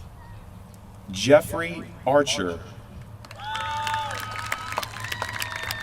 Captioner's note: applause